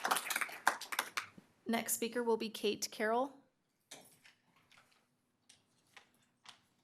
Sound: applause

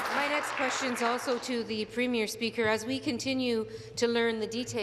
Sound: applause

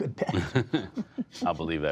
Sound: laughter

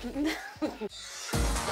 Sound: laughing

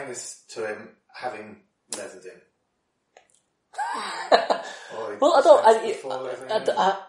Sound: laughs

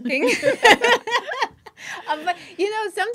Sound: laughing

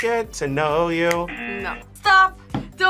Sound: buzzer

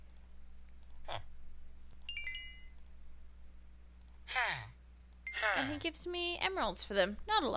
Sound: trading twinkles, villager grunts

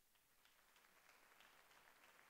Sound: applause

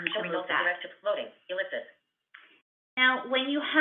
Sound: VoiceOver voice

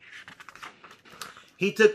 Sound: paper flipping

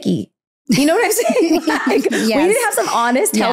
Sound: giggling

